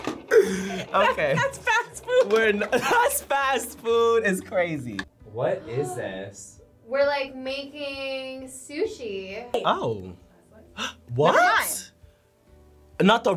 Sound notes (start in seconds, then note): 2.6 laughs; 6.3 gasps; 10.9 gasps